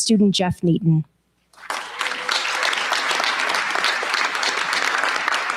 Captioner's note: cheers, applause